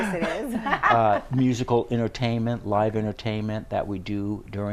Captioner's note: laughing